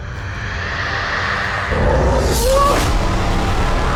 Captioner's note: dragon scream